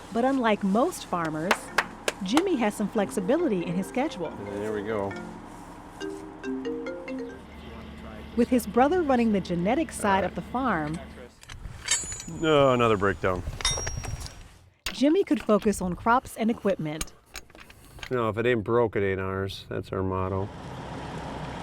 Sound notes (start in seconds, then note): 3.0 cell phone ringtone